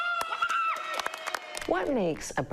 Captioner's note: people applaud